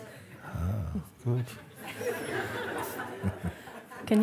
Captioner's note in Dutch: gelach